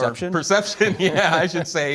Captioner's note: laughter